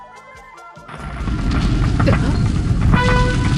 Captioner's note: rumble